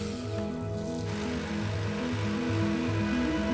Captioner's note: machinery whirring